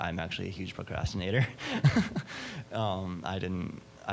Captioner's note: laughing